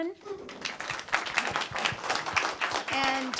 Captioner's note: applause and cheering